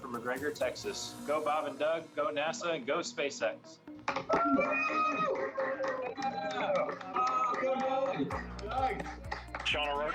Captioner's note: cheering